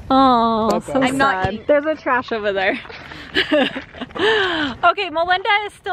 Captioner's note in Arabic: ضحكات خافتة من الكريستال